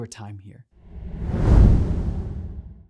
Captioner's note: air swooshing